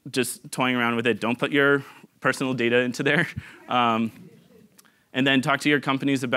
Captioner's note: giggling